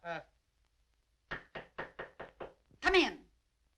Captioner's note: knocking